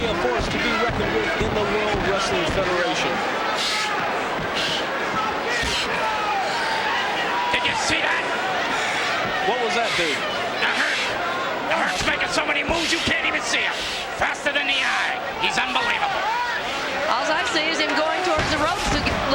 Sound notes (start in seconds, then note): 4.2 crowd clamoring